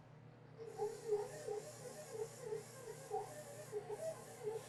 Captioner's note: mixer whirring